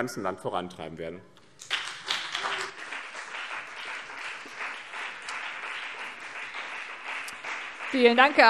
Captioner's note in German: Beifall BÜNDNIS 90/DIE GRÜNEN und vereinzelt CDU